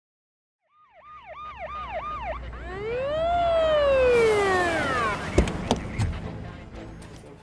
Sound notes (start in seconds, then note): 0.6 police siren